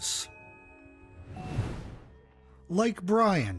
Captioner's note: air whooshing